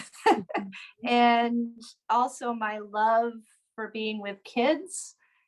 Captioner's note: laughter